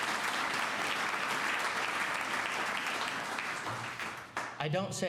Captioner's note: applause